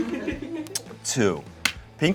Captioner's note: crew laughs